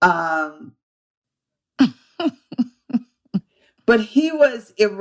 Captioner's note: laughter